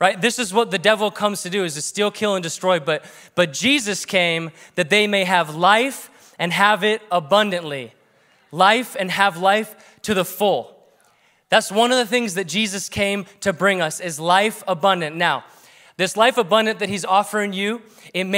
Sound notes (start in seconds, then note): none